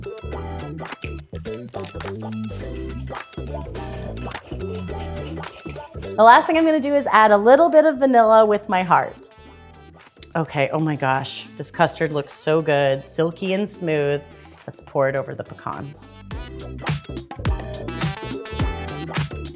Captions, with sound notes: [upbeat music] [whisking] The last thing I'm going to do is add a little bit of vanilla, with my heart. Okay? Oh my gosh, this custard looks so good. Silky and smooth. Let's pour it over the pecans.